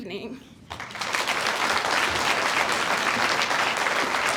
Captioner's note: audience applauds